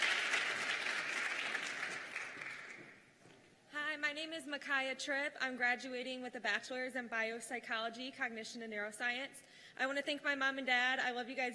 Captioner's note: cheers and applause